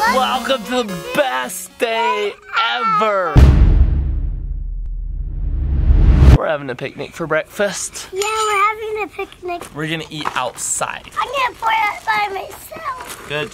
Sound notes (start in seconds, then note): 3.4 thundering tone